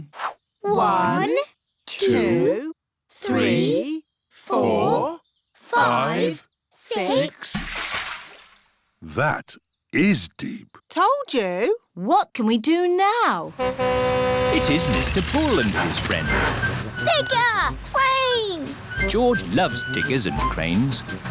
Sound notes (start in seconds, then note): 7.4 splash; 13.1 horn honks